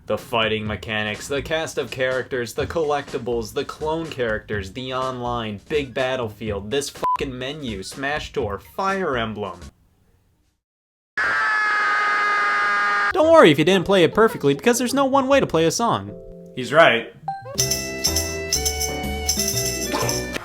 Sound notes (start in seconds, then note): 7.0 beep; 11.2 screams; 17.2 upbeat music